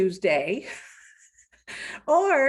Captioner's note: giggling